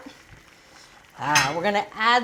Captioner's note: water bubbling